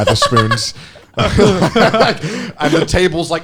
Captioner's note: all laughing